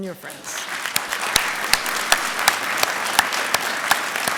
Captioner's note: applause